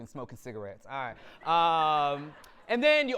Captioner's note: audience laughter